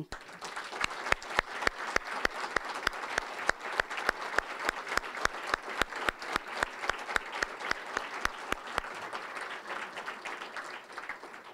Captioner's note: applause